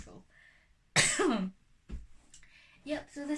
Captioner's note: coughs